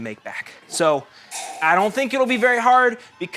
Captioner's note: Desmond slurps drink loudly